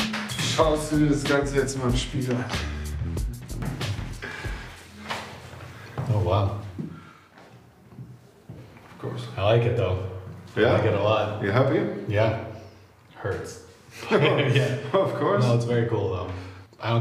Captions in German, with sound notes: Schaust du dir das Ganze jetzt mal im Spiegel an. Oh, wow. (englisch:)